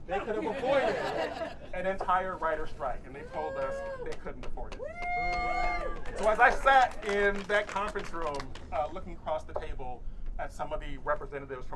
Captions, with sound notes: they could have avoided an entire writers' strike, and they told us they couldn't afford it. (audience cheering) So as I sat in that conference room looking across the table at some of the representatives